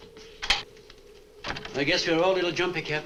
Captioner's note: door opens